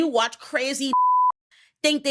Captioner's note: beep